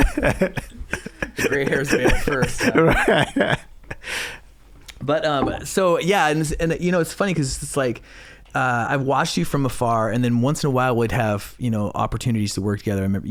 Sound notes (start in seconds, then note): 4.0 laughing